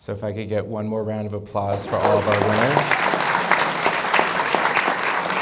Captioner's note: applause